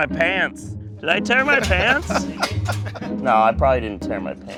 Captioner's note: laughing